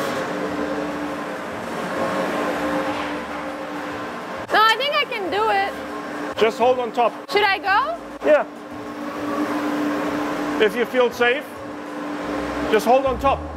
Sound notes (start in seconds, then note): 9.1 machinery whirring